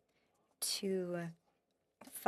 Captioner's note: speaking French